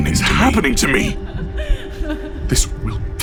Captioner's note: Sohrosyne laughing mockingly